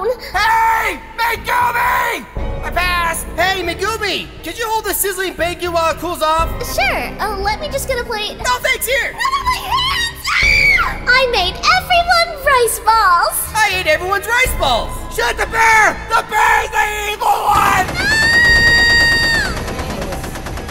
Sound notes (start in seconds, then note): 9.2 screams; 17.5 machine gun firing